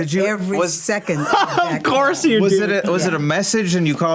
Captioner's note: laughs